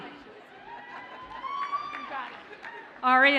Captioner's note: audience cheers and applauds faintly